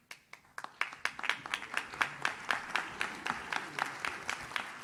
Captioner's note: audience claps